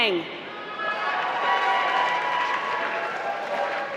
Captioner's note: applause